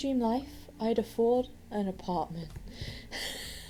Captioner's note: wheezes